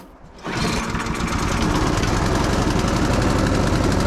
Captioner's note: snowblower purring